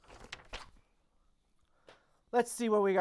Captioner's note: paper flapping